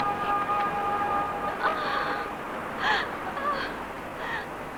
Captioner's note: panting and gasping